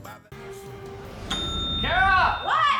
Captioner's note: bell ringing